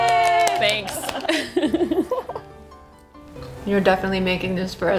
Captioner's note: group laughs